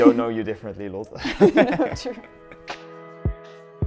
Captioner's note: laughing